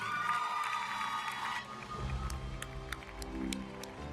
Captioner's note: audience cheering; audience applauding; uplifting music